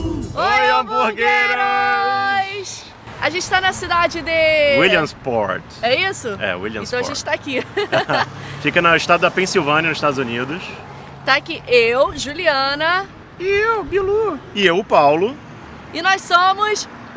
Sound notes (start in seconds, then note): 0.0 background music playing; 12.6 voice in disguise